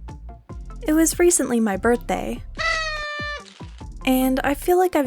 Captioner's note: party horn